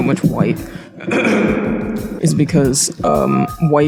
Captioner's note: clears throat